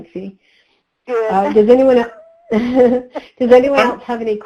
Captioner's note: laughs